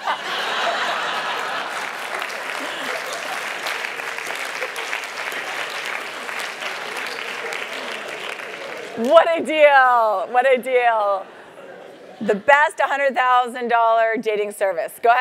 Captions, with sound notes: $100,000 dating service. >> [LAUGH] >> [APPLAUSE] >> What a deal, what a deal. The best $100,000 dating service.